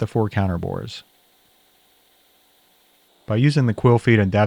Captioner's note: machine whirs